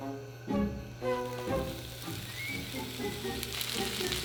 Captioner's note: sizzling